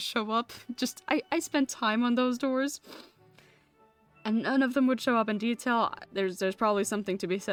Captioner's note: sniffs